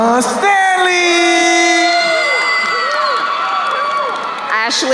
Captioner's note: crowd cheering